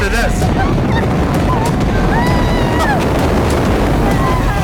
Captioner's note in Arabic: تهب الريح